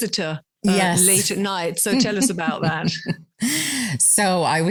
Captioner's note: laughs